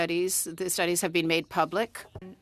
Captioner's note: speaking French